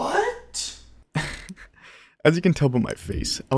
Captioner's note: laughing